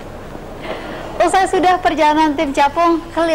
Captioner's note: non-english speech